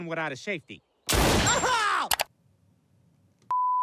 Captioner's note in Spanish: estallidos de disparos